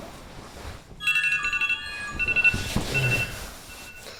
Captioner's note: phone jingle